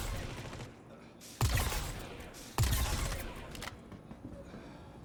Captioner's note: gun firing